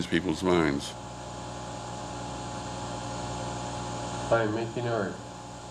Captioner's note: machine humming